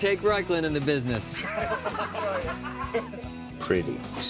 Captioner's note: laughter